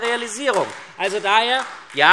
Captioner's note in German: Beifall SPD